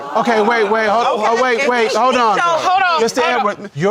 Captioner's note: audience gasps